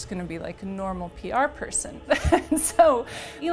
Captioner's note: laughs